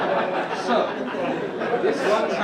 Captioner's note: audience laugh